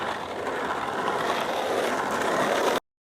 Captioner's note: sound of skateboarding